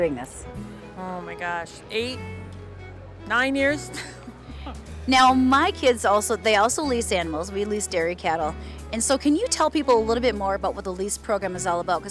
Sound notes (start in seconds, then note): 3.9 laughing